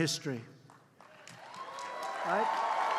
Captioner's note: applause